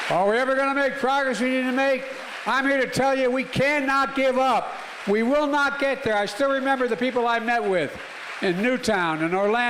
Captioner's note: applause